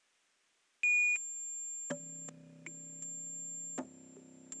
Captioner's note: high-pitched electronic beeping and humming, rhythmic popping sounds